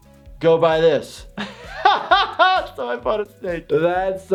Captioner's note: laughs